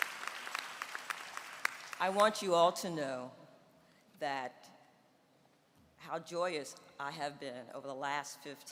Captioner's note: applause